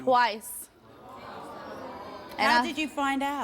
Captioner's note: audience groans